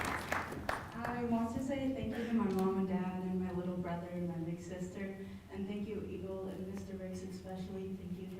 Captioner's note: applause